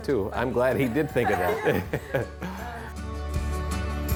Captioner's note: laughs; upbeat music